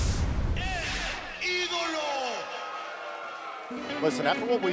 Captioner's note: speaking spanish